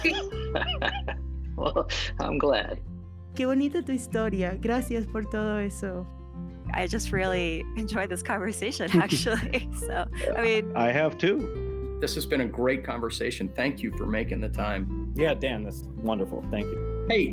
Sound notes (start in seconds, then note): 0.0 laughs; 3.3 Spanish